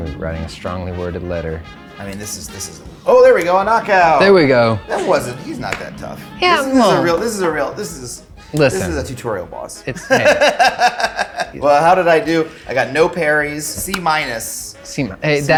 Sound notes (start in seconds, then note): 10.9 laughing